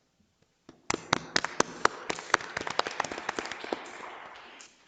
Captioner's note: audience applauds